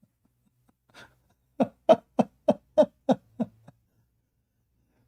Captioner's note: Ketawa